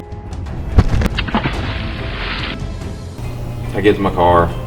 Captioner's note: dramatic music; water splashes